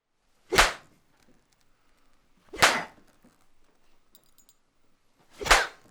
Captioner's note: hard spanking